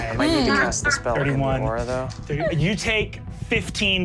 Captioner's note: Sofia laughs